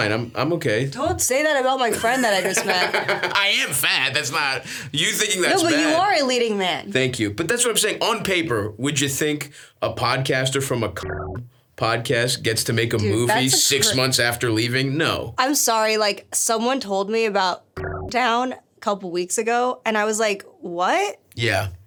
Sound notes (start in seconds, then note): 1.9 Stavros laughs; 11.0 beeps; 17.8 beeps